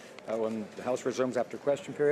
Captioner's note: speaking French